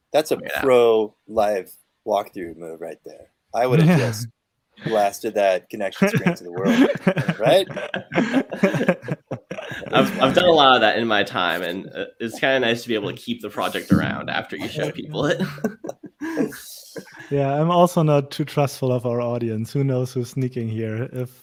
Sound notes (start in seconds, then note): 8.1 all laughing; 14.5 laughs